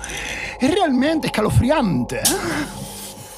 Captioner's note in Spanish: con voz femenina